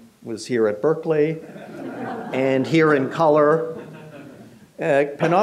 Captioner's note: audience chuckles